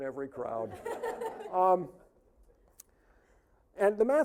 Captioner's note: audience laughing